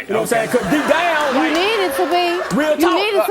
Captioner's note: audience laughing